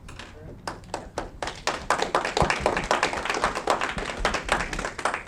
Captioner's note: audience clapping